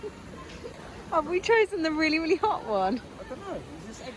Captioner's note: still laughing